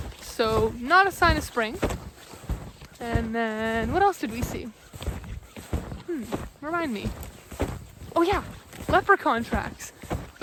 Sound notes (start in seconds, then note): none